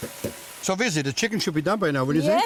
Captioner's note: pot clanking; simmering